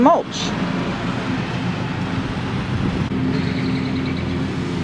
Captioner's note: lawn mower engine roars